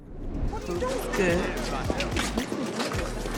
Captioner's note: chatter